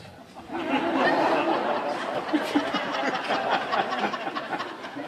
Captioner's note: audience laughing